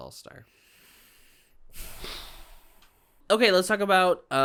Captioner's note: joint sigh